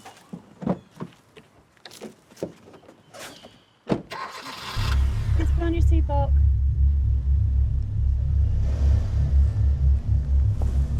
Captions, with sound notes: (engine starts) Kids, put on your seat belt. (low droning music)